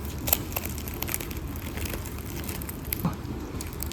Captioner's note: crack